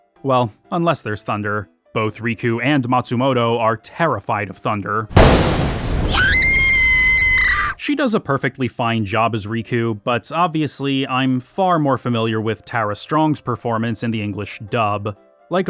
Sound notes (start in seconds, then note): 5.1 thunder booms; 6.0 screaming